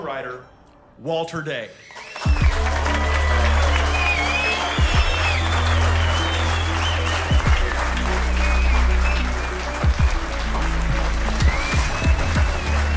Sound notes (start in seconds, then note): 1.8 cheering and applause; 1.8 upbeat music